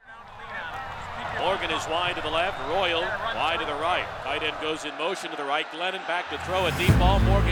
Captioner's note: Sports announcer audio from Virginia Tech football game